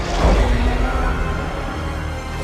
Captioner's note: roaring